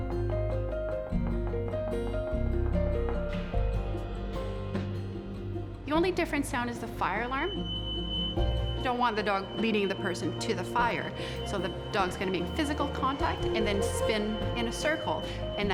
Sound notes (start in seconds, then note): 7.9 fire alarm beeping